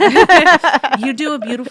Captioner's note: laughing